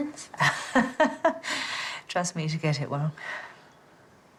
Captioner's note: laughs